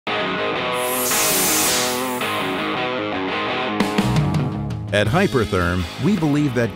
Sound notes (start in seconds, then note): 0.1 upbeat rock music; 0.7 whooshing logo; 2.2 upbeat rock music